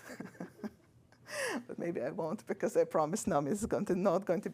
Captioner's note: laughs